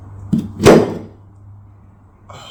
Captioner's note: clatter